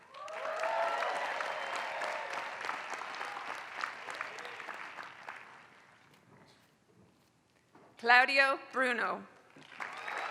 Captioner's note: applause; applause